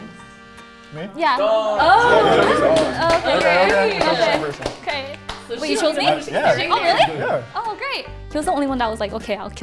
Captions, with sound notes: - Me? - Yeah. - Dog. (people clap) - Oh, okay, okay. We chose the same person. - Wait, you chose me? - Yeah. - Oh really? - Yeah. - Oh, great.